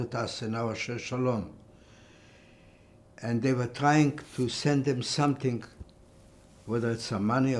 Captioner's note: hebrew